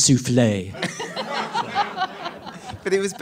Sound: audience laughing

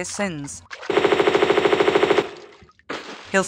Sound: bratatatatatatatata

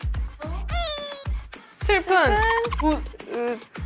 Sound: first cry then laugh

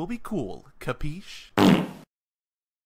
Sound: fart sound

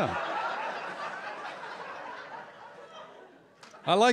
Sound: laughter

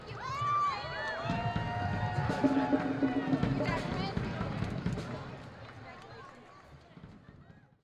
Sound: cheers and applause

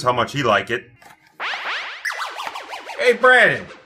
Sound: video game sound effect plays

